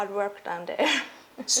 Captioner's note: chuckles